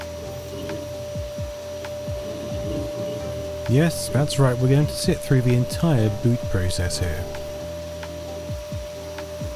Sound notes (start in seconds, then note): 3.4 glorious startup sounds ensue; 3.7 sounds like a hamster churning in a very large and robust wheel